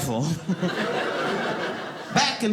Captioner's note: audience laughing